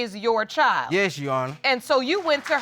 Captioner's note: audience applauding